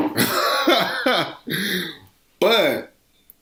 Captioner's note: laughing